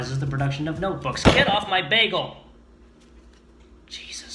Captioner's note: bangs table; whispering